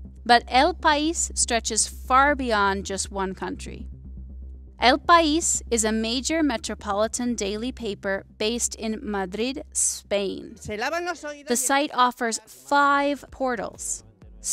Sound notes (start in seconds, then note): 10.9 speaking in foreign language